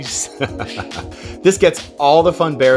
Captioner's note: laughing